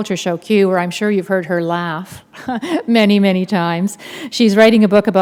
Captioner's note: chuckle